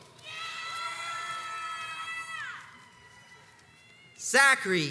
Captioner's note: crowds cheers and applauds